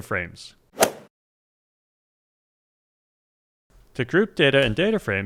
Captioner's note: golf swing sound effect